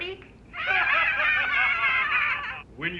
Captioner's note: all laugh